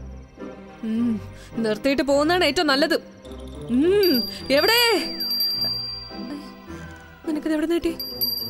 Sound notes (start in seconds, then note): 4.0 bell rings